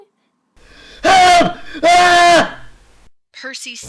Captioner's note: screams